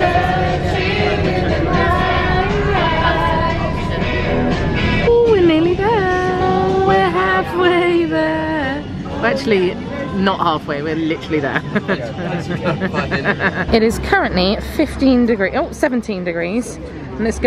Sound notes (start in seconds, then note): 0.0 upbeat music; 11.5 laughing